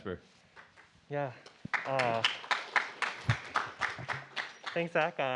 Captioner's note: applause